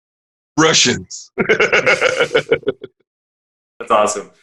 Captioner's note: laughing